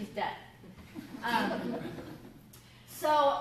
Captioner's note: laughter